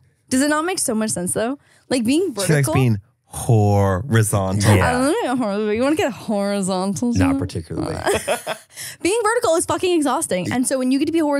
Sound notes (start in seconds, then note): 8.0 everyone laughs